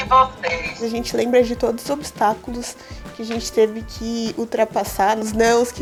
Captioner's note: speaking Portuguese